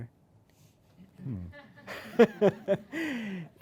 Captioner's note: laughter from audience; laughs